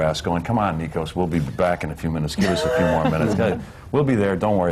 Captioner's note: laughter